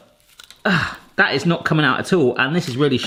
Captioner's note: grunts